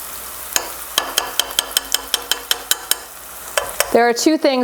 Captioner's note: spoon tapping against pot